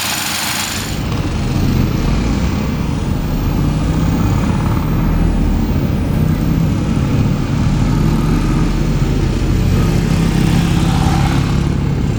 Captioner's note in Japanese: エンジンの音